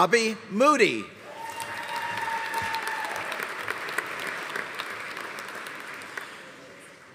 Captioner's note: audience cheering; audience applauding